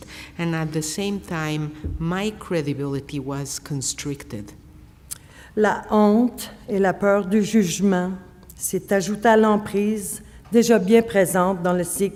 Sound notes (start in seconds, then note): 5.5 speaking French